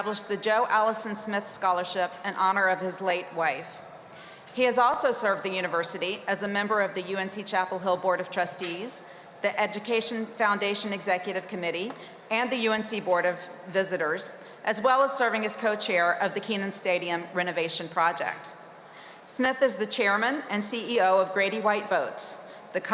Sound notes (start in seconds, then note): none